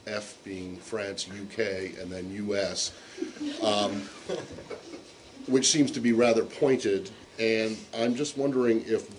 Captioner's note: laughter